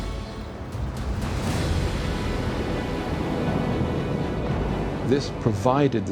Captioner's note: explosion